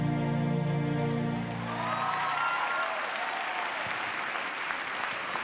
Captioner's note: applause